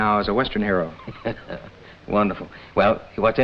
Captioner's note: laughs